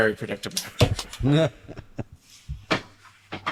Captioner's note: laughter